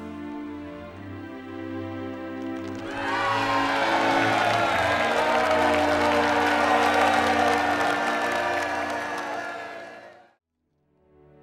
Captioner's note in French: acclamation